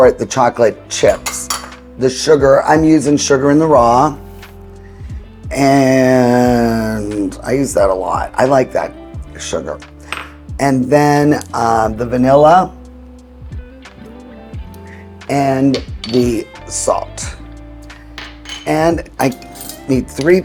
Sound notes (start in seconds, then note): 1.0 bowl clinking; 4.5 sugar swishing; 10.1 saucer clinking; 18.0 saucer clinking; 18.1 utensil clinking